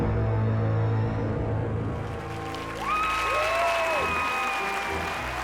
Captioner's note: audience cheering and applauding